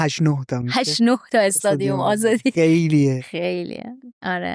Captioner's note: laughs